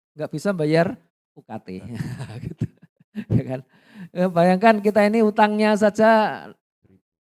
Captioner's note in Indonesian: tertawa